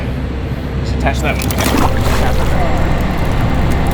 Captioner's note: water splashing; motor boat whirring